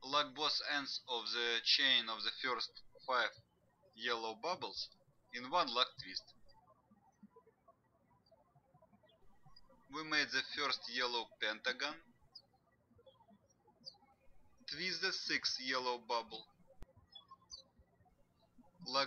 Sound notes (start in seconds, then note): 8.0 birds chirping